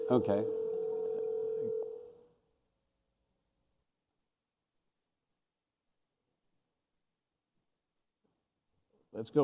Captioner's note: phone rings; speaking another language